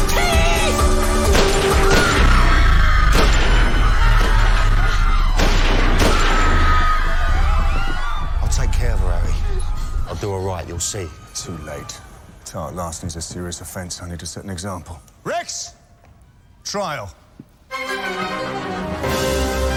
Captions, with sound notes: - THIEF! - ( gunfire ) ( crowd screaming ) I'LL TAKE CARE OF HER, HARRY. - I'LL DO HER RIGHT, YOU'LL SEE. - TOO LATE. TART LARCENY IS A SERIOUS OFFENSE. I NEED TO SET AN EXAMPLE. REX! TRIAL.